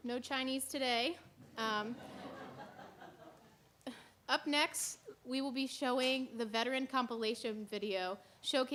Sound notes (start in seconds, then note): 1.9 laughter